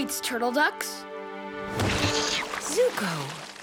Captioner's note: squealing